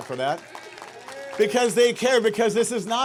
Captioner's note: audience clapping